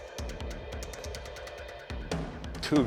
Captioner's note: none